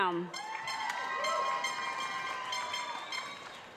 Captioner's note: cheering